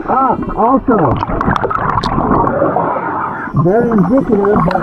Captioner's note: oxygen bubbling in water